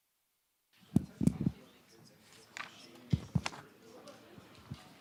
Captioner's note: muffled chatter